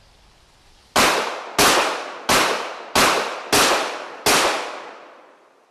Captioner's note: gunshots blasting